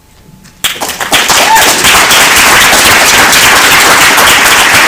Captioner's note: applause